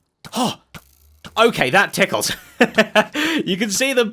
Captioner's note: chuckles